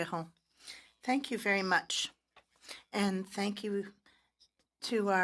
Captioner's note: speaking French